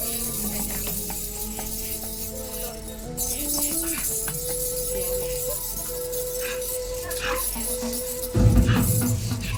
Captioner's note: iron chains clanking